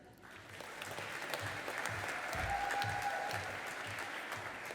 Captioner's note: audience applauding